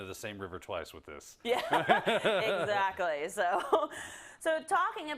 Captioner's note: laugh